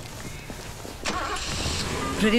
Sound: car engine starts

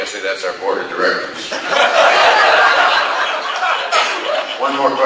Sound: class laughs

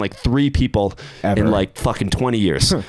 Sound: chuckles

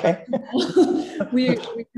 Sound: laughs

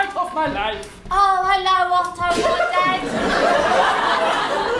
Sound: British accent

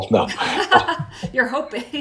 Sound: both laughing

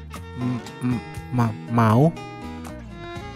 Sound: stuttering

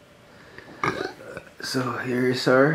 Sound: burps

